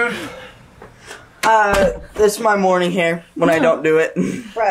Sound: laughing

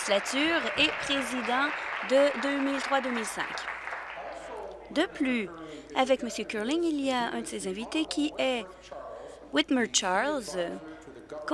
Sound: applause

